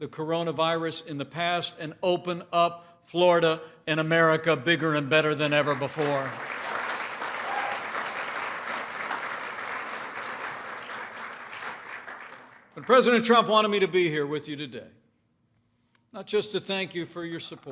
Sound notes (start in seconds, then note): 5.5 applause